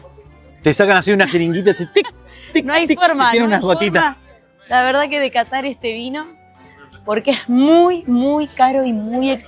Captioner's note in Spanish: risas